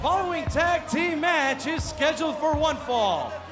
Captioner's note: bell ringing